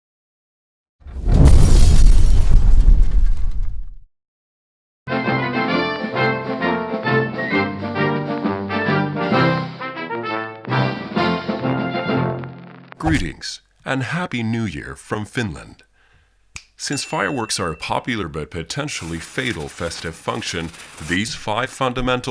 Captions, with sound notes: *Fireball sound* *Uptempo PSA music* Greetings, and happy New Year from Finland. Since fireworks are a popular, but a potentially fatal festive function, these 5 fundamental